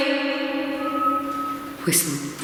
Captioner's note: whistling